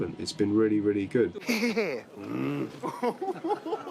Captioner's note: grunting